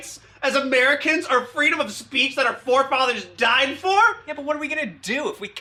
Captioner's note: none